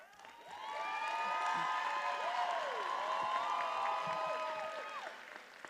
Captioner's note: attendees applauding and cheering